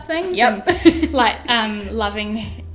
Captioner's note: laughs